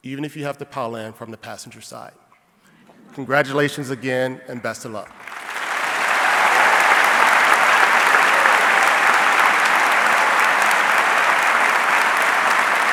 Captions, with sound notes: even if you have to pile in from the passenger side. Congratulations again, and best of luck. (audience clapping)